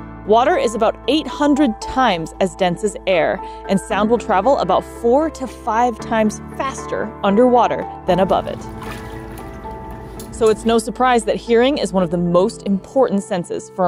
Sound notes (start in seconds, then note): 8.1 water splashing sounds; 8.8 background music